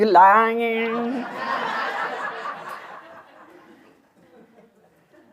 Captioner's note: laughter